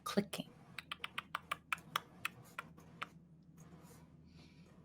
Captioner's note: tongue clicking